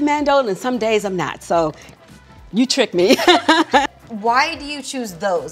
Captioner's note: laughs